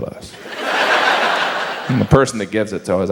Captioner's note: audience laughs